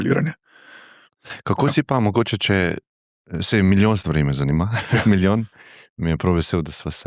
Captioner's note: laughter